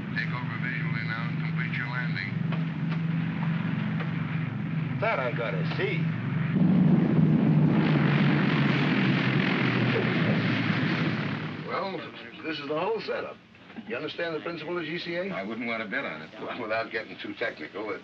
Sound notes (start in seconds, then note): 6.6 aircraft rumbles